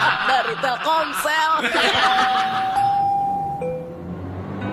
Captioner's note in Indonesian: tertawa